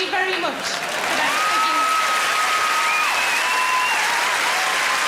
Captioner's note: audience applauding